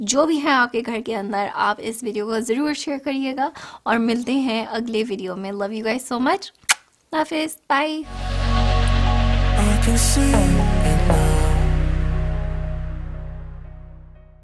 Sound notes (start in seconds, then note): 6.6 kiss